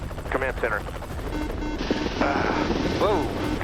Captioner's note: beeps